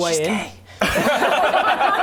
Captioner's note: laughs